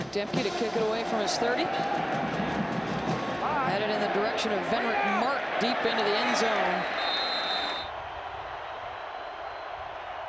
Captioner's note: applause